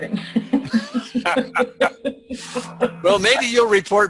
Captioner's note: laughing